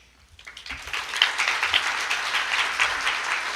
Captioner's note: applause